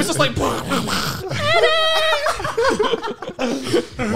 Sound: cheering

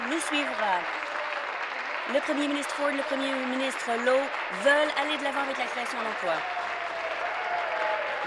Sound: applause

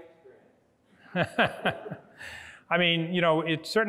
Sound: laughs

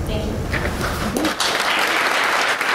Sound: applause

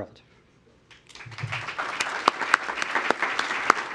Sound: applause

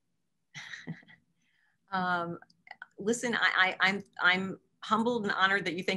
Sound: laughing

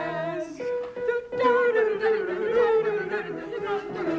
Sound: all vocalizing

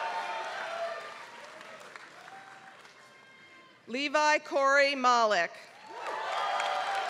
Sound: applause; applause

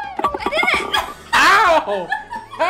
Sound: laughing; laughs

